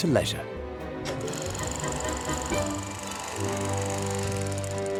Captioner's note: film projector whirring